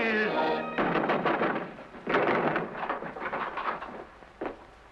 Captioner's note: pounding on door